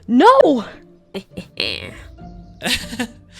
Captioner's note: evil laugh